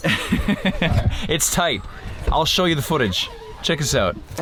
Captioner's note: laughs